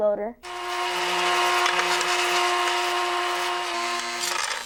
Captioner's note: mechanical noise